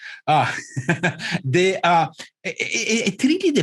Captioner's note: laughing